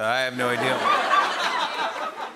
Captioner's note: laughter and applause